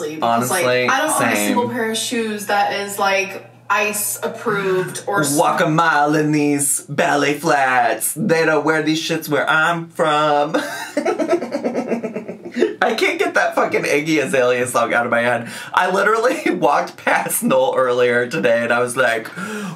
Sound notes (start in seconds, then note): 10.5 laughs